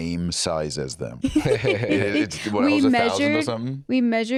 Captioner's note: laughs